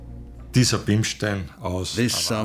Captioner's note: speaking German